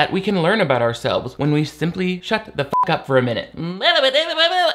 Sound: beep

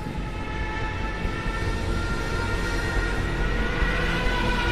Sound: plane engine roaring

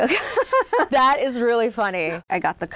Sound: laughing

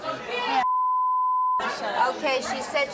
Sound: beep

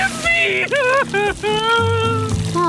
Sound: crying

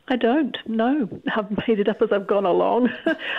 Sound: laughs

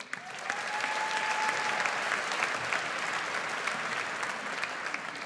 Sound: audience applauds

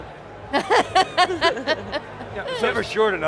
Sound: laugh

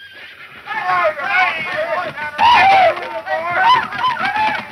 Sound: men cheering

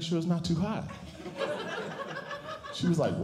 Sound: audience Laughing

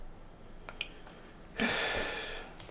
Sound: sigh

